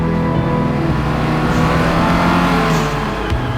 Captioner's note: engine revving; synth music